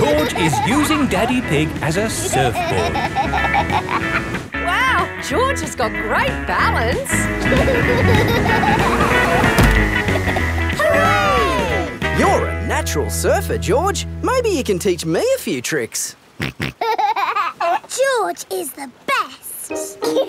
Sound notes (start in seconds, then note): 0.0 snorts and laughs; 7.4 laughing; 16.7 snorts and laughs